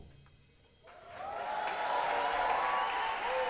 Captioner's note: cheering and applause